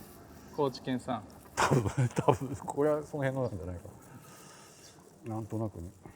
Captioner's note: laugh